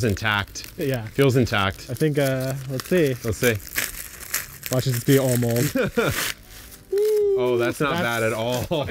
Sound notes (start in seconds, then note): 5.6 chuckles